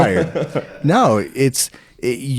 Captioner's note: laughing